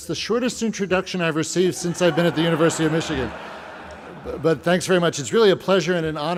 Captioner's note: laughter